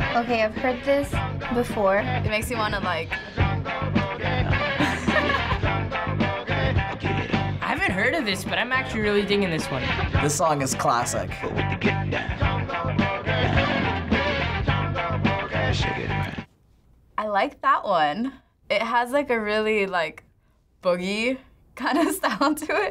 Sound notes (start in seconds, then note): 4.4 giggling